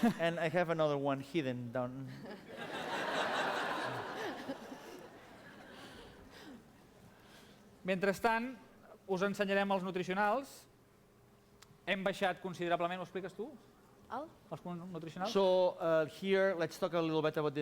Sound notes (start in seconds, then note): 0.0 non-english speech; 2.1 laughter; 10.7 non-english speech